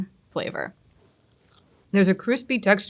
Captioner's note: food crunching